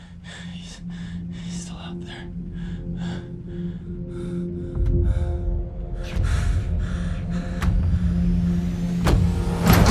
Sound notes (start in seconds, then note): 4.0 breathing calms; 5.8 approaching footsteps